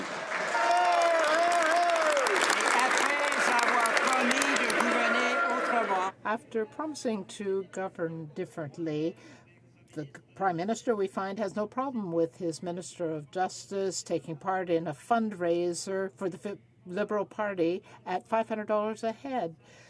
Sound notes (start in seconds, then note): 0.0 some Applause